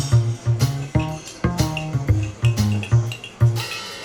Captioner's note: cafe background sounds